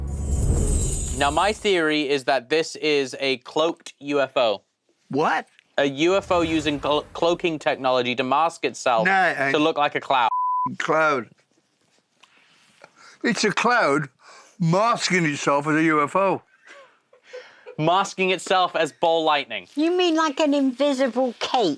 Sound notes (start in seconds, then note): 16.5 chuckles